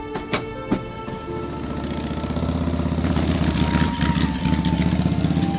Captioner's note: motorcycle engine sputters